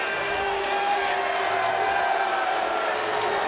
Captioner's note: audience jeers